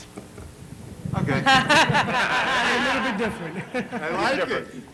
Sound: laughter

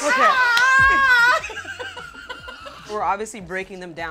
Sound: laughing

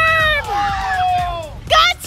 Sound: all shouting

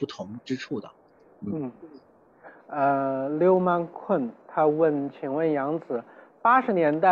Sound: Mandarin

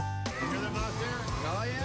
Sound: laughter

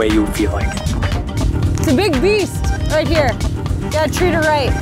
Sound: whirring

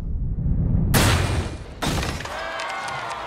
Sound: low thudding; wind rushing; gun firing; crowd cheering

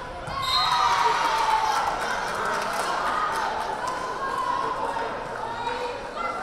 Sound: crowd cheering; whistle blaring

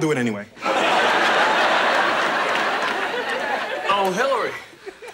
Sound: audience laughs

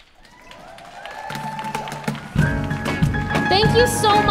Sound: audience cheers and applauds

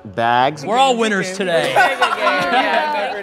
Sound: laughs

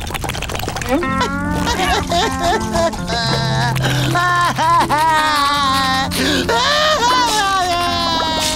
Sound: crying

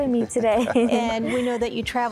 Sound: chuckling

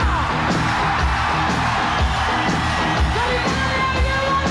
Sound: audience cheering

